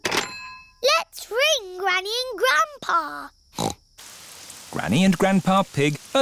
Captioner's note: snorts